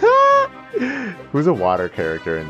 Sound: breath

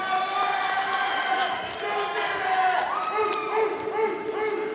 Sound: audience applauding

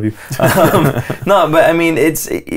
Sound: laughter

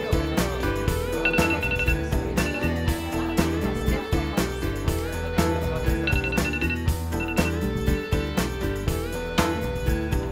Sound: alarm rings for switching tables

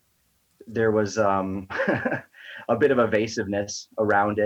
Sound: laughs

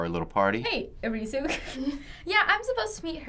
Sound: snickers

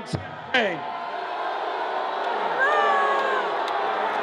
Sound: audience jeering

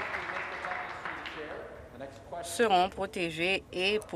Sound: applause

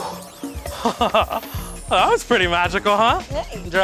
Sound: laughs

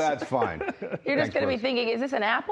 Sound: laughing

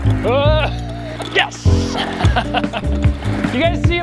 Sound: laughs

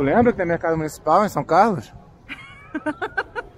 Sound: laughter

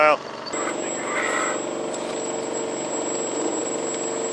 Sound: engine rumbling

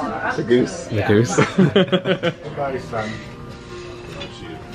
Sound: laughs

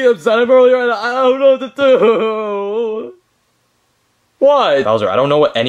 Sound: sobbing

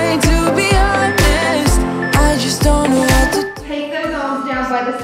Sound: beeping

